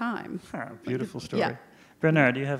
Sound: laughs

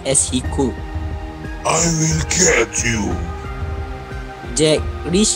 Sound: yelling

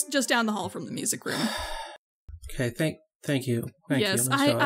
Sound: sighs

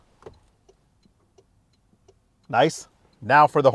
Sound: light ticks

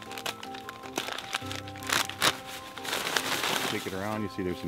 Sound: paper bag crinkling

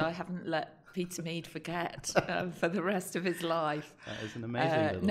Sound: laughter

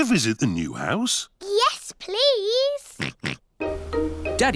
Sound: oinks

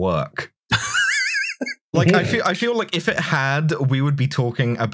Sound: laughter

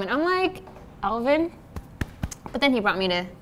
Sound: patting

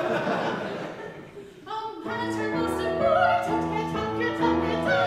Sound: audience laughs

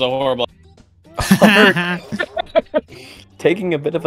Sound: laughter

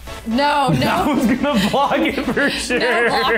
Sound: upbeat music; laughs

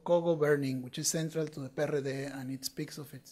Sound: speaking foreign language

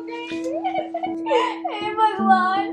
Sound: crying

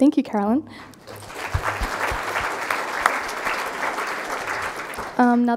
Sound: crowd applauding

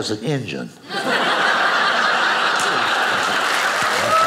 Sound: audience applauding

